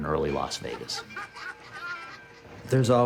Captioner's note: train bell; laughter